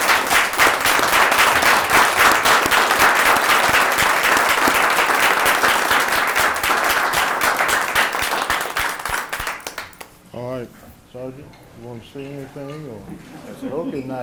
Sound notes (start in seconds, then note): 2.6 applause